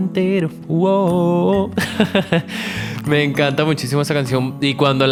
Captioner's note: laughs